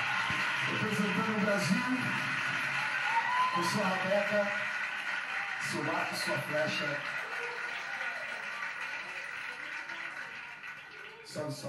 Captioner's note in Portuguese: Televisão de fundo